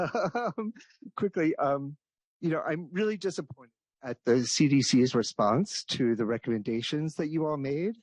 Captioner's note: laughs